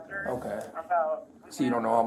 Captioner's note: radio chatter